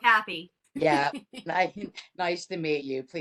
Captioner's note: laughter